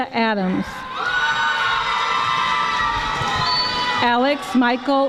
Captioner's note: audience screaming